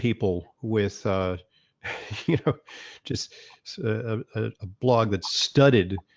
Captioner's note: laughs